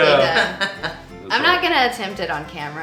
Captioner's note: laughing